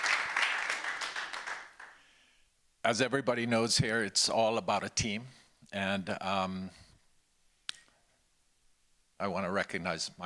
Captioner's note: applause